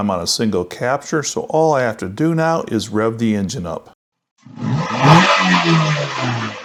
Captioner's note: engine Reving Noise